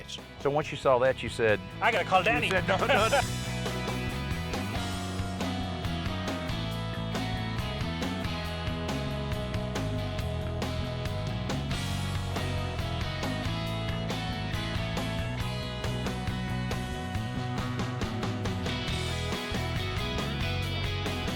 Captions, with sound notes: So, once you saw that, you said... I got to call Danny. (LAUGHS) (THEME MUSIC PLAYING)